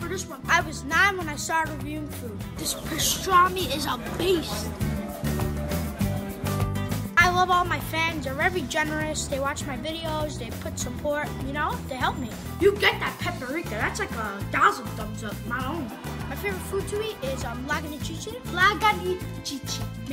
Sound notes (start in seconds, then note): 4.8 upbeat music; 15.7 laughter